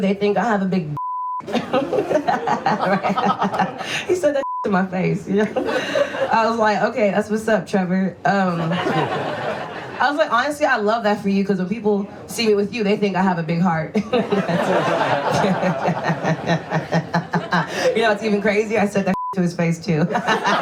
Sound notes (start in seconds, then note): 1.4 laughs; 8.5 audience laughs; 14.0 audience laughs; 15.9 laughs